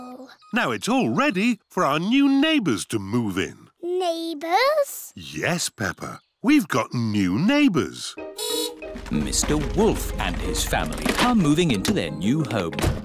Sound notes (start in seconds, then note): 8.4 horn beeps